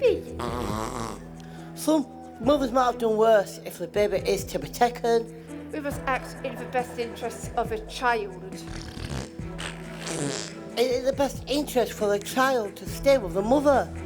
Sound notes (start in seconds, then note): 8.6 baby trumps loudly